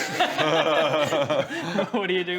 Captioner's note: laughs